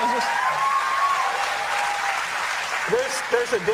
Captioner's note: applause